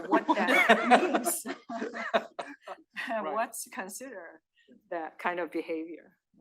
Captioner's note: laugh